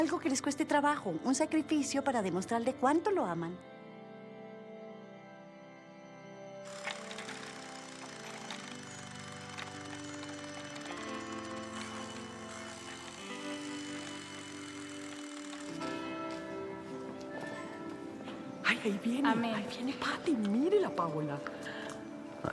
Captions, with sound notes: something that is difficult for you, a sacrifice, to show him how much you love him. [toy whirring] [church bells ringing] Here comes Patty, look at her Paola!